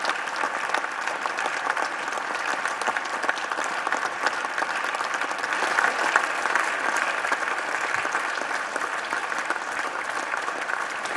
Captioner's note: applause